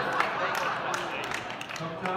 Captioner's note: laughter